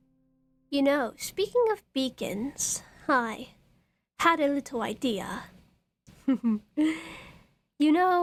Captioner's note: chuckles